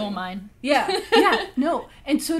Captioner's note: laughs